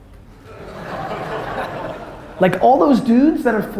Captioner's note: audience laughter